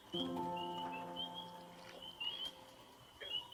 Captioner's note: frogs peeping